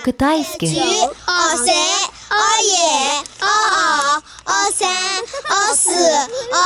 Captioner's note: counting in Chinese